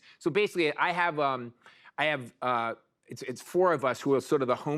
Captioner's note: none